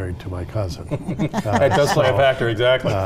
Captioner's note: all laughing